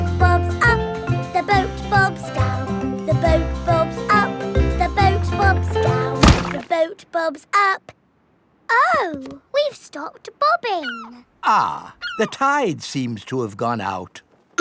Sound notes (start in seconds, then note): 6.2 thuds